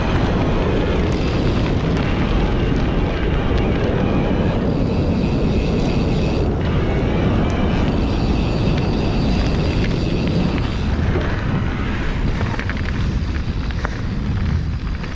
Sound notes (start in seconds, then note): 2.4 wind blowing